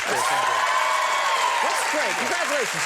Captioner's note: crowd cheers